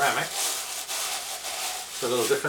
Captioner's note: paper rustling